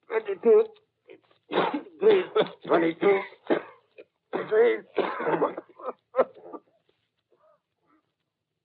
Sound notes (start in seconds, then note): 1.4 coughing; 4.3 fade-in coughing